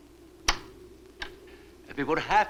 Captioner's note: lock clacks